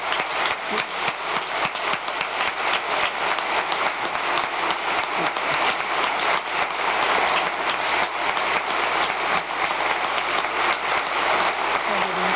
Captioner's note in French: applause